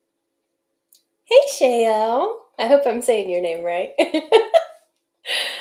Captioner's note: laugh